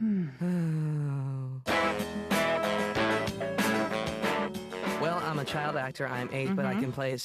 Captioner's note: both sigh